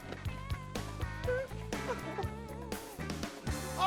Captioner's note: sobbing